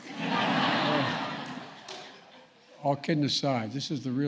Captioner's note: laughter